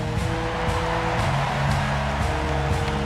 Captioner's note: crowd cheering